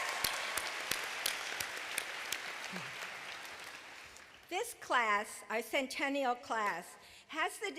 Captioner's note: applause